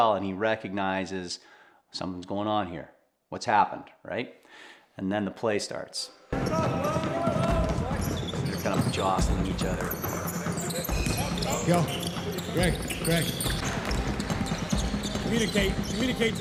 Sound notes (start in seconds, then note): 6.6 tennis shoes squeaking; 10.6 tennis shoes squeaking